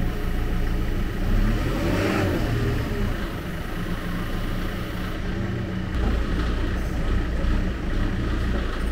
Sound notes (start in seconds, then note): 0.8 engine revving